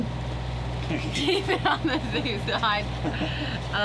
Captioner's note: laughing